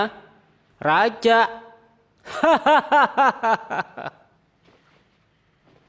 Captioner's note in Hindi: हंसी उपहास